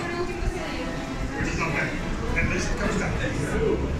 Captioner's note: crowded noice